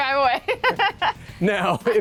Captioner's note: both laugh